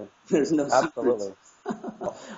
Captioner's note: laugh